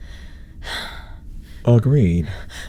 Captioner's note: sigh